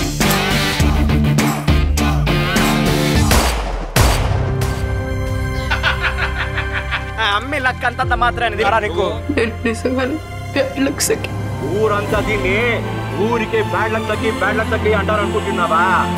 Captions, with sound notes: [gunshot] [laughs sarcastically] Don't you know this girl has hard luck? I am indeed 'Bad Luck Sakhi'. Do you think the entire village simply calls her 'Bad Luck Sakhi' without any apparent reason?